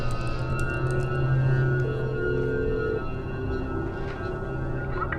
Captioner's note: phone rings